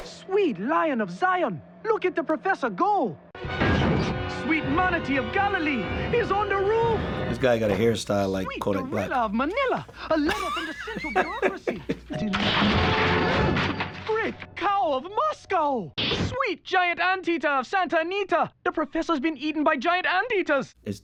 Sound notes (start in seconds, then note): 3.2 dramatic music; 10.0 chuckles